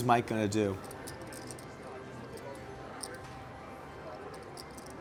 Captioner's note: soft clacking